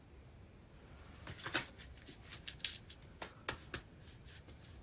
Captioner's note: drawing cards